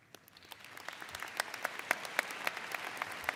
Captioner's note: all clap